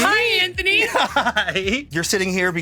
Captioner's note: laughs